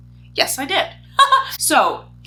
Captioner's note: chuckles